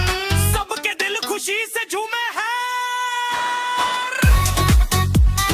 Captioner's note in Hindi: चीखने की आवाज़